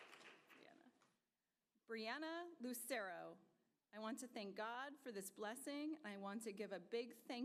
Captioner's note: applause